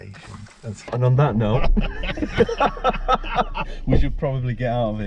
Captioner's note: laughing